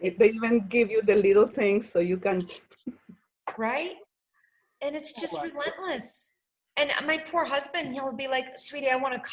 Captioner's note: laughs